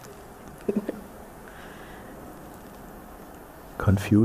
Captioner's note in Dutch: lacht